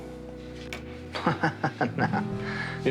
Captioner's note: laughs